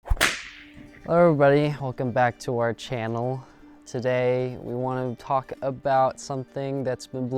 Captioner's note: swoosh